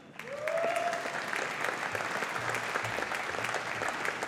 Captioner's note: audience applauding